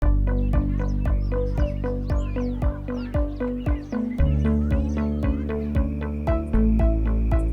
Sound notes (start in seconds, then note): 0.0 gentle music; 0.0 birds chirping